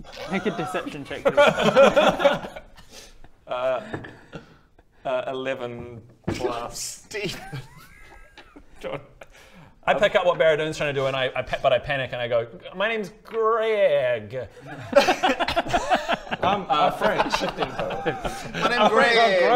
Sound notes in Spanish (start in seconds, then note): 0.1 risas; 14.6 risas